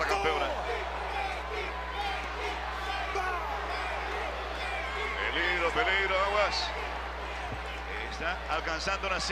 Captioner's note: applause